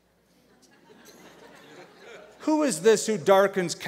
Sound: laughter

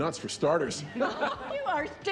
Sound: group members laughs

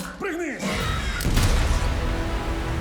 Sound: screeches; gunshot

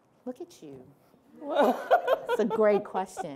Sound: laughing

